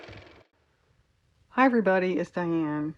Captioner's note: car motor